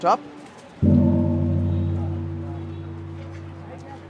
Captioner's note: audio gongs